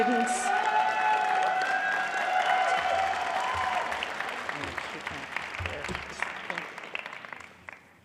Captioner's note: applause